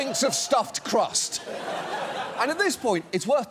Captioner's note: studio audience laughs